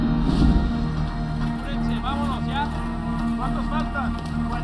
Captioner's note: workers speaking Spanish